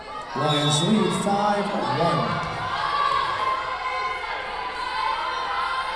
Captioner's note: whistle blowing